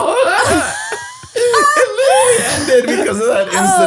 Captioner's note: all laughs